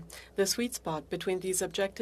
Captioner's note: speaking French